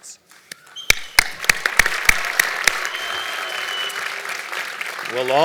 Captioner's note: applause